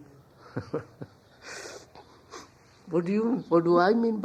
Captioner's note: laughs